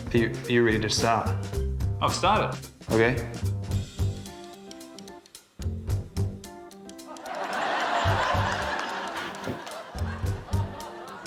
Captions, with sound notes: - Are you―? Are you ready to start? - I've started. - OK. (LAUGHTER)